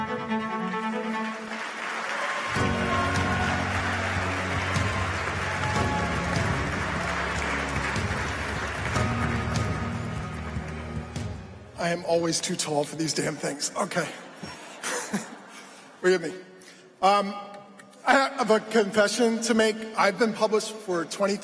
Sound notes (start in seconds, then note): 7.9 applause